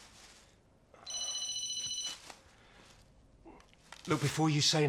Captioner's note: phone rings